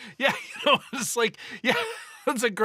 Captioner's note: both laughing